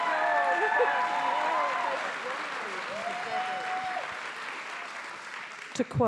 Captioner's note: attendees cheering; attendees applauding